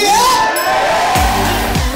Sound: crowd cheers; pop music plays

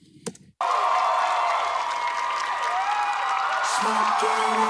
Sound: crowd cheering

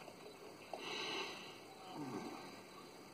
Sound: breathes deeply

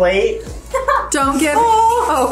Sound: laughs

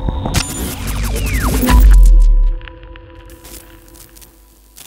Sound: electronic buzzing

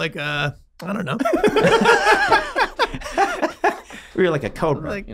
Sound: all laughing

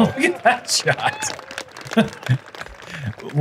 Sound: laughs

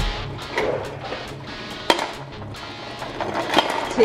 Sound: rattling

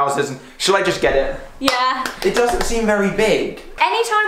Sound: clapping

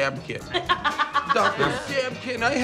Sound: laughs

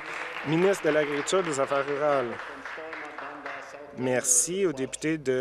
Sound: applause

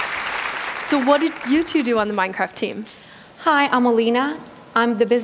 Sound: cheering; applause

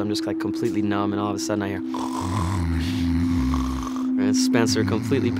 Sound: snoring

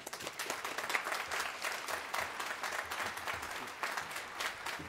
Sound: applause

